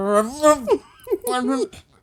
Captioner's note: laughing